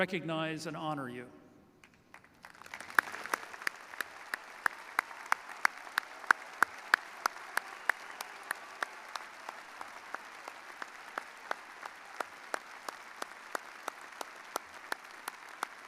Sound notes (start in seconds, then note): 4.9 applause